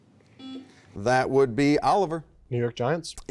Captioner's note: beep